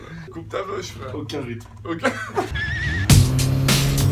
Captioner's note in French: rire